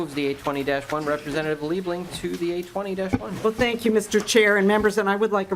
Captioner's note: gavel